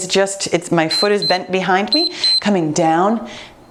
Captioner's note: timer beeps